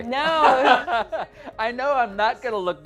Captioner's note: both laughing